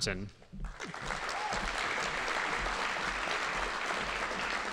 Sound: audience applauding

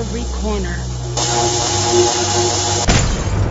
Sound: electrical static; chemical explosion

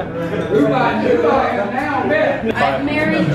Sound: chattering

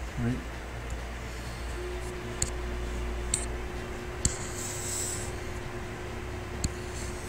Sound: faint techno music; computer mouse tapping

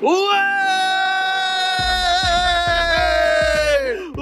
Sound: team cheering

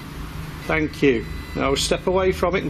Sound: machine buzzes

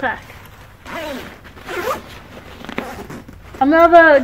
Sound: zipping

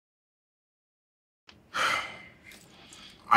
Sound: sighs

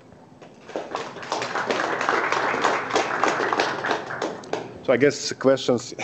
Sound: applause

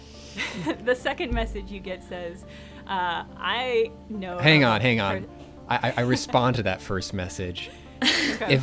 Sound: pat

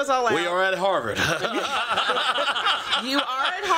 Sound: laughter

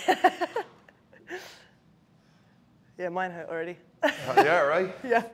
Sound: laugh

